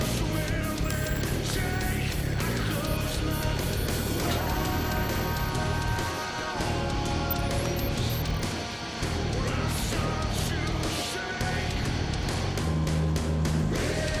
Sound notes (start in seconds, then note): 0.1 electronic Beeping